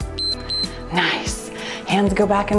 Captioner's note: timer beeps